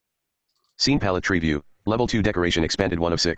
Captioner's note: computer Voice